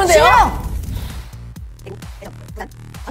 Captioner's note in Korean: 심호흡